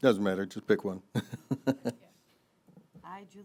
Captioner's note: laughing